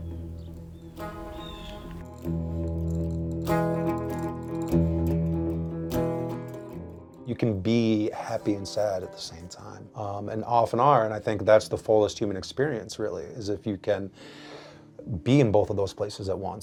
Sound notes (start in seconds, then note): 2.4 birds chirping; 2.4 somber guitar music